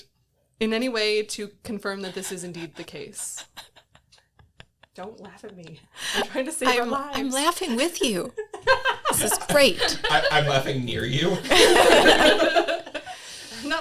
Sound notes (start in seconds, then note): 2.0 laughing